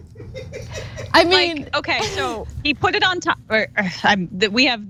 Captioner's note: laugh